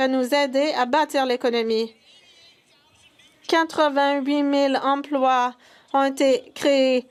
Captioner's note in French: voix de l'interprète